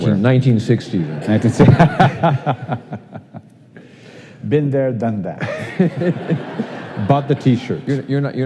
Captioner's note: laughing